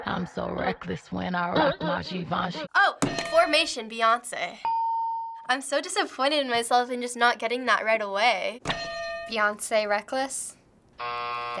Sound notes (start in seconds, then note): 4.6 ding; 8.7 hitting bell; 11.0 buzzer